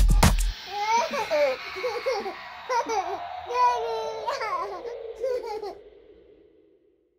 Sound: baby laughing

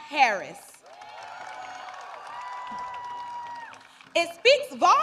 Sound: applause

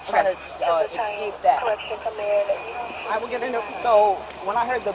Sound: radio background talking

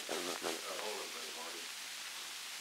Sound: production chatter

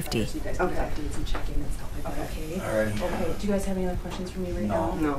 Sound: muffled conversation

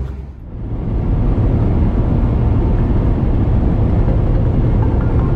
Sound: engine and road noise hums quietly

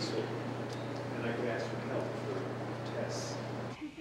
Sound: laughter

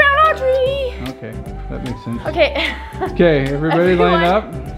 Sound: laughs

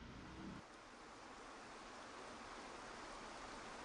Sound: water rushing

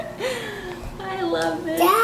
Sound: laughing

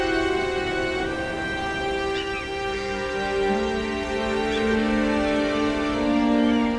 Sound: birds cawing; waves crashing; warm music

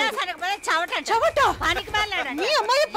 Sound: laughs

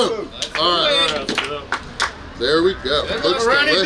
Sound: cheering and applauding

